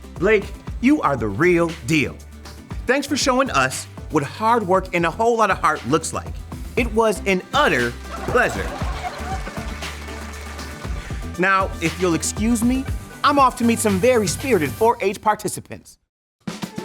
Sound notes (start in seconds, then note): 8.1 audience laughing and clapping